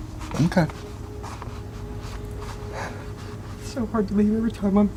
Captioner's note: is crying